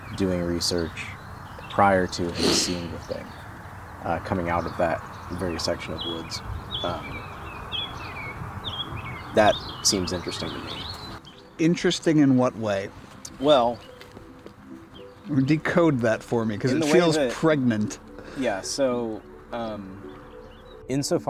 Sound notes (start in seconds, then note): 0.1 laughing cheerfully; 13.2 birds chirping cheerfully